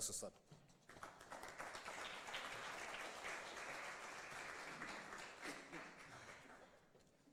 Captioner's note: applause